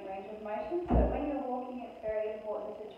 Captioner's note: door closes